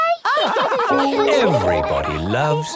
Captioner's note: all laugh